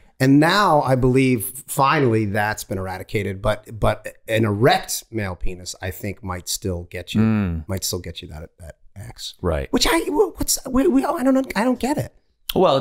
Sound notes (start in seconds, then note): 10.4 Rob stammering